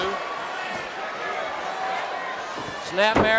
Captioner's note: audience cheering